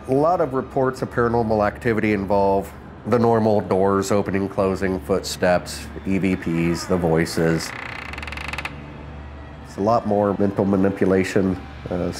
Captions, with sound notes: A lot of reports of paranormal activity involve the normal doors opening and closing, footsteps, EVPs, the voices. (door creaks) It's a lot more mental manipulation,